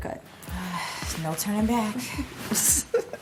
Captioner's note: sighs; laughs